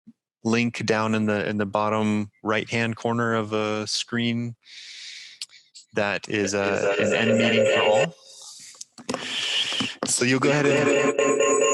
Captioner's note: electronic feedback